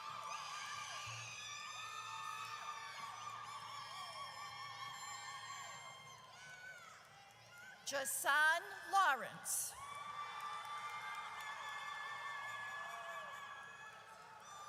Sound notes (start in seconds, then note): 9.7 audience cheers